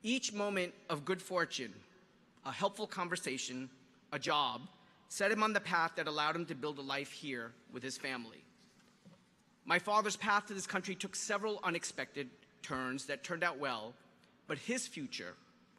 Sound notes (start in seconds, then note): none